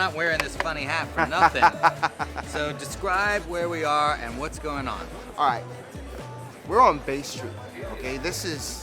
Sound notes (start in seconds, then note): 1.1 laughs